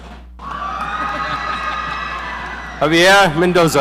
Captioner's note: audience cheering